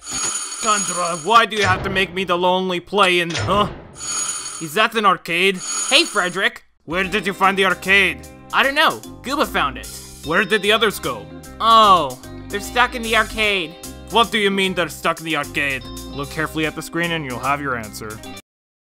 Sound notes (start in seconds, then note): none